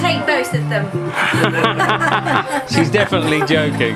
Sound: laugh

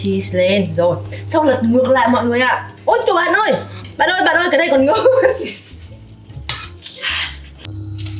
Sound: laughs

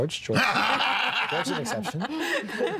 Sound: laughing

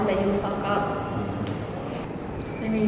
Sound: slap

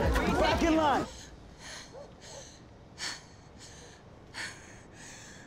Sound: Sadie panting

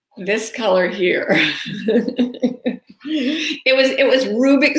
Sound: laughing

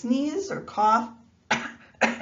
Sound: coughs

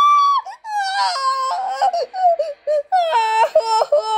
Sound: cry

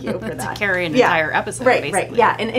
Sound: laughs

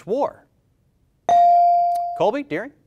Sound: bell rings

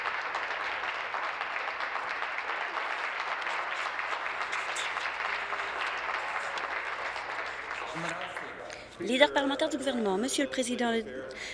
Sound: applause

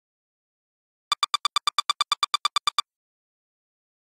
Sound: sound of typewriter

